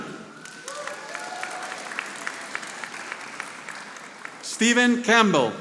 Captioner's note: audience applauding